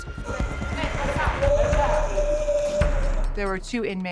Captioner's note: groaning